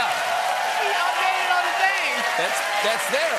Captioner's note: cheers and applause